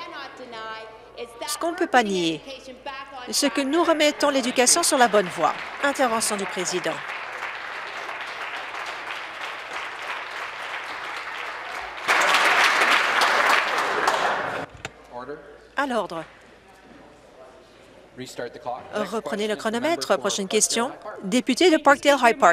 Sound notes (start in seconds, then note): 7.5 applause